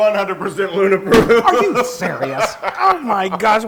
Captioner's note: laugh